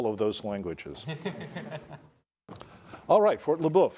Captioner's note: students laughing